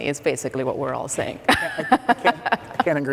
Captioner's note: laugh